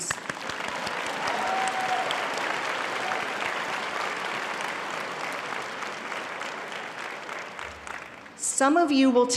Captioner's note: audience cheering and clapping